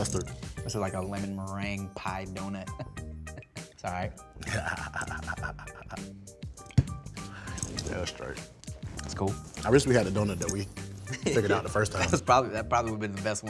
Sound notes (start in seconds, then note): 4.4 laughing